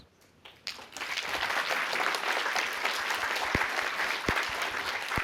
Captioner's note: applause